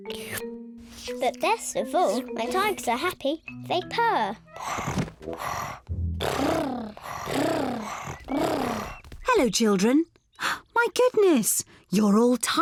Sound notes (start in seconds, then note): 3.7 all purring; 3.7 purring; 9.5 gasps